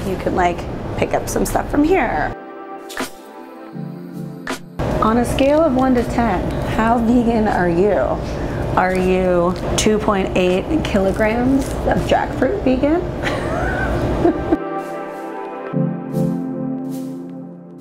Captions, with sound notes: You can pick up some stuff from here. On a scale of one to 10, how vegan are you? Are you 2.8 kilograms of jackfruit vegan? (laughter) (soft music)